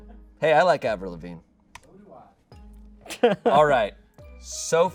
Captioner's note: laughs